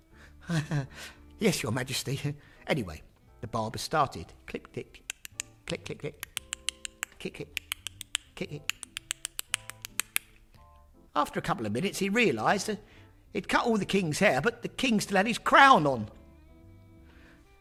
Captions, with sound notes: *chuckles nervously* “Yes, Your Majesty.” Anyway, the barber started. Clip, click. *clicking and clipping* After a couple of minutes he realised he’d cut all the King’s hair but the King still had his crown on.